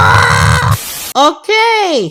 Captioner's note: Static